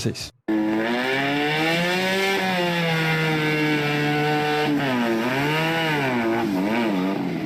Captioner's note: motorcycle snoring